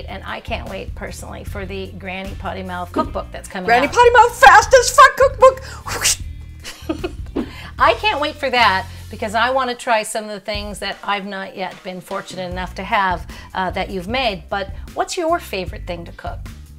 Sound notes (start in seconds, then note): 6.6 giggle